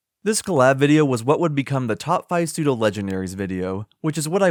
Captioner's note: none